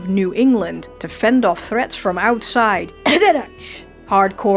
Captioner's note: cough